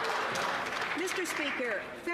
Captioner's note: some Applause